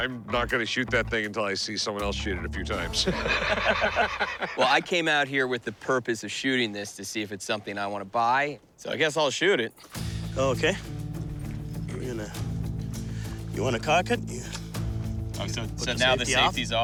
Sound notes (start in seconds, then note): 2.9 laughter